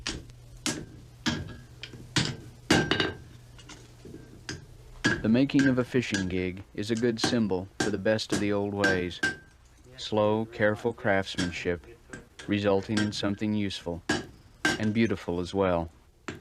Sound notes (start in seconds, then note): 1.2 hammering; 5.3 voiceover